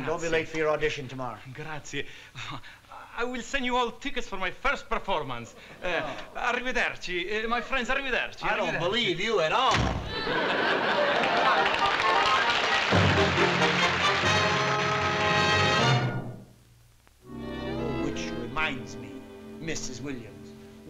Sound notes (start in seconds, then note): 6.5 speaking italian; 10.1 laughter; 12.8 intro music